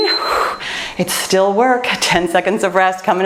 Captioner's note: timer beeps